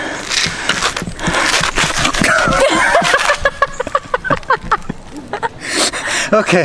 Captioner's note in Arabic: يضحك